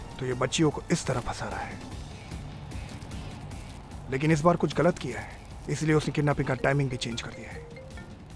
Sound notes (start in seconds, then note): 6.4 Phone ringing